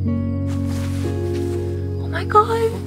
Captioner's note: grass rustling